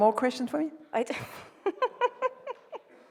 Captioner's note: laughs